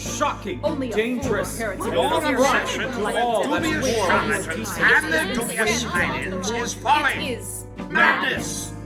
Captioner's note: Cacophony of disgruntled Professors, Scolding Victor